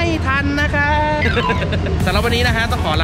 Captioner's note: laughing